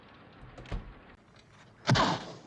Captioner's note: sound of door closing; whack